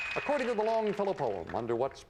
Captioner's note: audience applauding